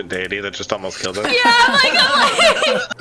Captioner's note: laughter